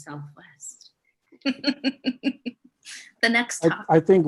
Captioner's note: laughs